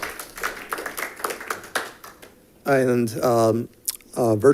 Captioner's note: audience applauding